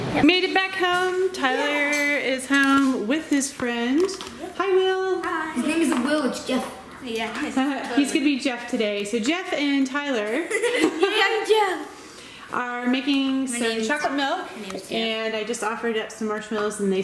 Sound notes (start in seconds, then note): 10.6 laughing